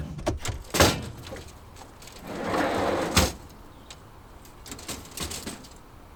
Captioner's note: crates clattering and clanking